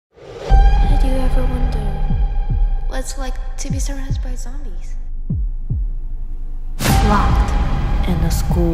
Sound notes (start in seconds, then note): 4.5 heartbeat